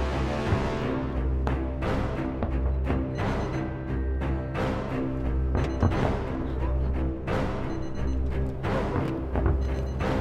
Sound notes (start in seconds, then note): 3.2 keypad beeping